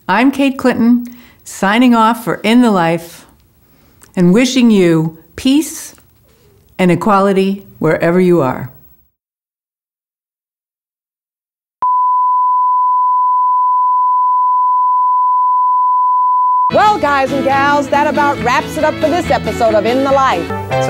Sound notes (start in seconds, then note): 11.8 test tone